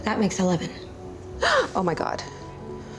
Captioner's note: gasps; sighs